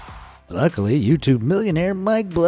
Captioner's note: cheer